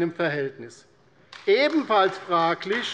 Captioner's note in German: Beifall bei der LINKEN